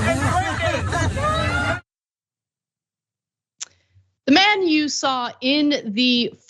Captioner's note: laugh